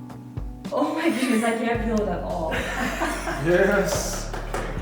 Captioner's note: clapping